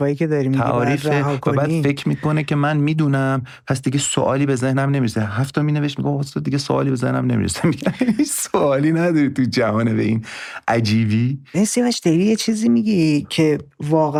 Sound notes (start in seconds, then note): 11.5 laughs